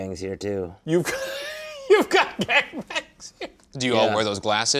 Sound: laughs

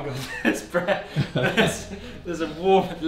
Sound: everyone laughs

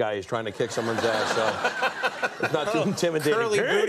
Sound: laughs

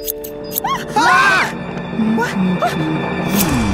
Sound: all scream

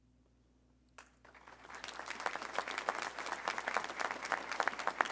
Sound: audience applauding

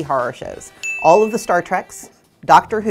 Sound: bell dings

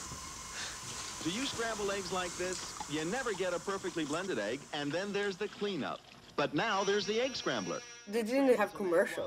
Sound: television

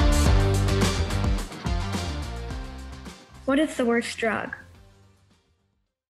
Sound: female voice over

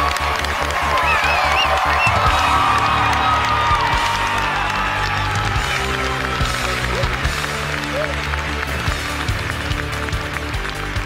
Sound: applause and music continue

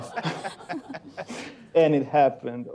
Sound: laughter

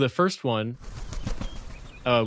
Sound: wingbeats

